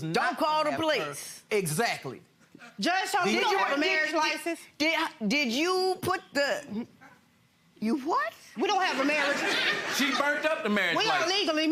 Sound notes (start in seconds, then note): 8.8 audience laughing